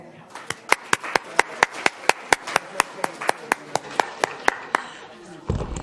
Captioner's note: applause